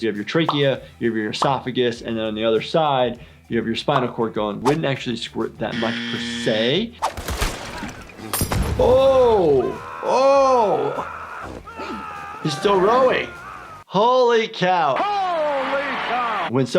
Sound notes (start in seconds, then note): 8.4 projectile exploding; 11.1 game character screaming